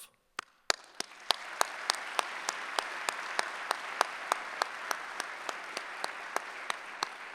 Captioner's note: applause